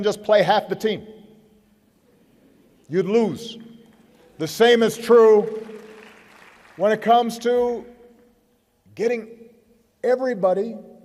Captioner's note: applause